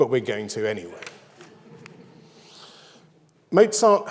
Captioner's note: audience laughs